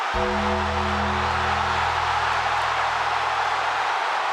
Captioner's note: audience cheers; ominous music